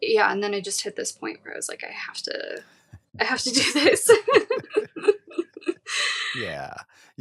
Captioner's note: chuckling